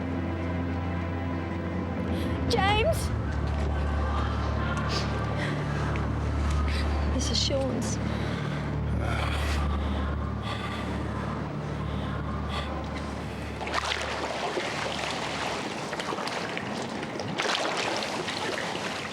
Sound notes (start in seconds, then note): 13.6 gurgling sounds